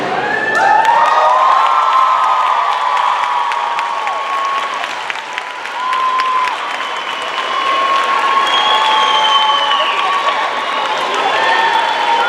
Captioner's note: cheers and applause